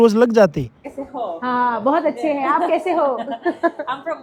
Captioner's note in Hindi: हंसी